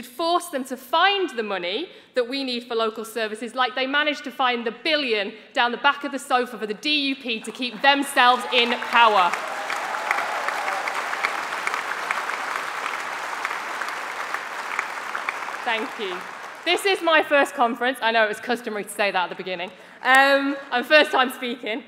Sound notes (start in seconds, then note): 15.9 applause